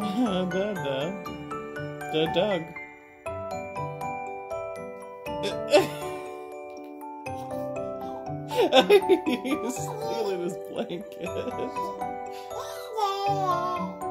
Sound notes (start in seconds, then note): 8.5 laughs